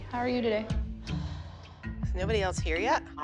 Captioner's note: sighs